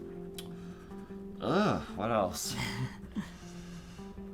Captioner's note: laughs